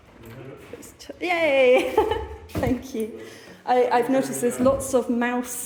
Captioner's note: laughing